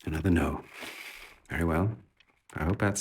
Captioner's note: sighs